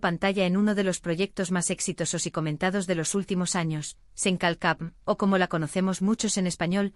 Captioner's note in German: auf Spanisch: „Lo fiser“